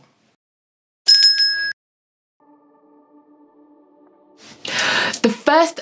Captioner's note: bell ringing